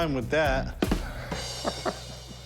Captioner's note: laughing